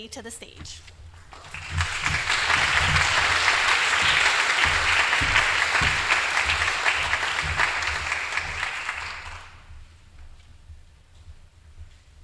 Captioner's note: applause